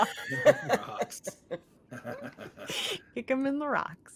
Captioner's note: cast members laughing